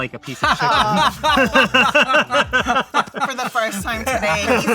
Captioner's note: everyone laughing